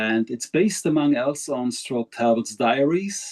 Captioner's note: speaking in foreign language